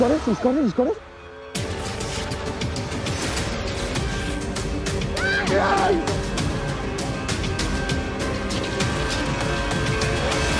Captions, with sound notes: He's got it, he's got it, he's got it! (intense music) (cheering)